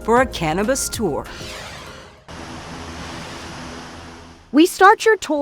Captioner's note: logo whooshing